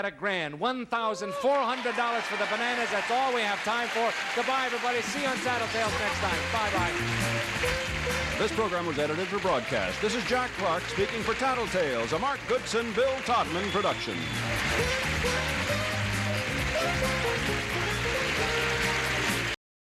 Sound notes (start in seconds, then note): 14.6 audience applauding; 17.3 quirky music